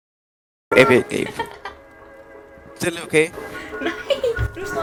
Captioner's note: laughs